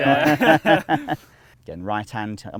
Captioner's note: men continue laughing